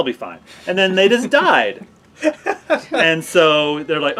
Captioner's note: laughing